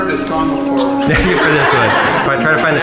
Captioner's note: laughing